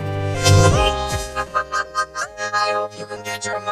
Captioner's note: laughing